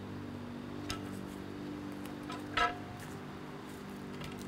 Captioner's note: pipe rattling